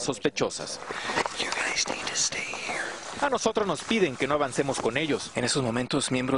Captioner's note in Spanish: habla en inglés